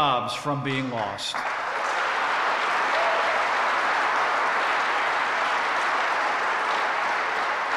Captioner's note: applause